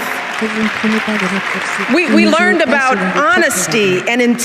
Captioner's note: audience applauses